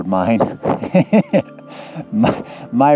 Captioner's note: laughing